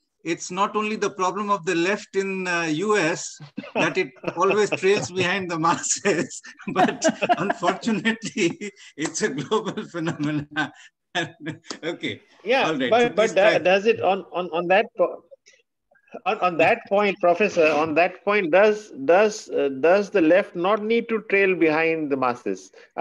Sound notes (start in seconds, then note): 11.2 laughter